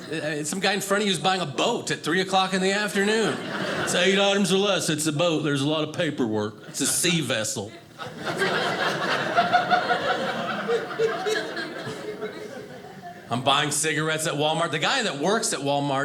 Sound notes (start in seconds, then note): 7.6 audience laughing